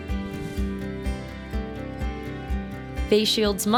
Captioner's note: air whooshing